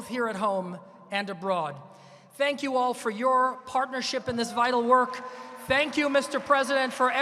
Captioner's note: applause